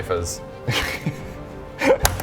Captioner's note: doubtful laughter